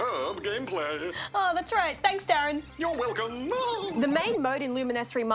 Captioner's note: laughs